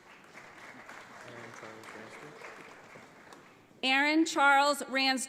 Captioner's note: audience applauds